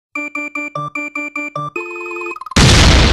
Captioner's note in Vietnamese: tiếng nổ